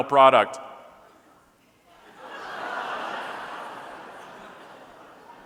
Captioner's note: audience laughing